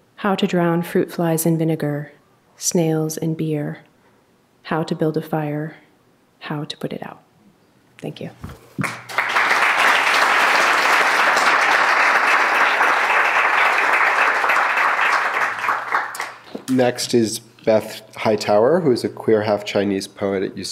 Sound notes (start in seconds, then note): 8.8 clapping